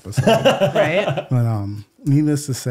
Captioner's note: laughing